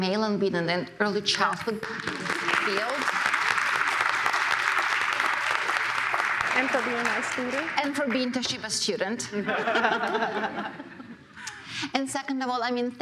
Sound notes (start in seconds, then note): 1.8 applause; 9.4 all laugh